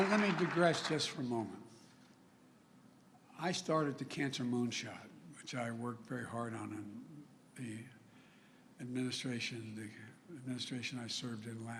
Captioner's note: applause